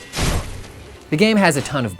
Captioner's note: dull thud noise